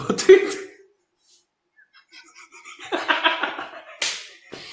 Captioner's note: chuckles